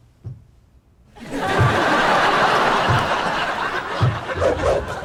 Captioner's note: audience laughter; dance music